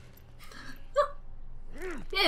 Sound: chuckles

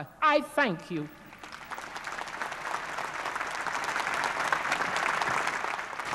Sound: applause

